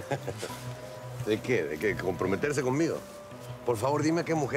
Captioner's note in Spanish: Risas